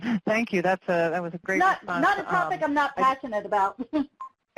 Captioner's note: laughs